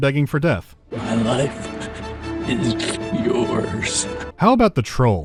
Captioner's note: sobbing